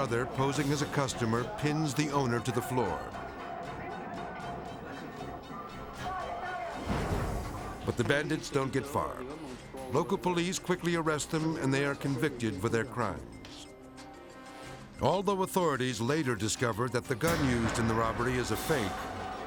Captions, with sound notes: posing as a customer, pins the owner to the floor. (crowd shouting muffling) (light intense music) But the bandits don't get far. Local police quickly arrest them, and they are convicted for their crimes. Although authorities later discovered that the gun used in the robbery is a fake,